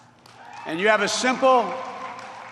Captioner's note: applause